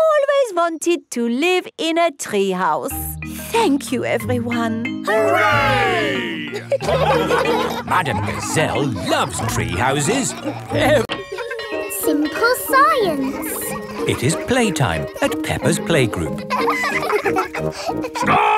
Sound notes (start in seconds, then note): 7.3 laughing; 11.0 children laughing; 11.0 bell tolling; 16.8 children laughing